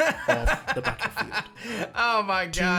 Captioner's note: laughs